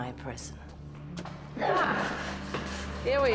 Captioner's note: footsteps scuffling